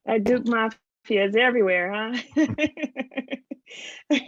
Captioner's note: laughs